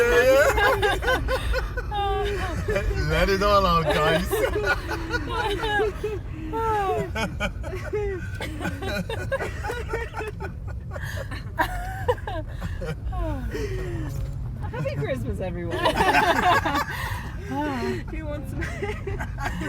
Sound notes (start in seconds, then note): 0.0 laughter; 6.5 laughter dies down again; 15.7 big laughs; 15.8 laughter dies down again